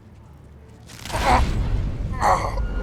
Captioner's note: grunts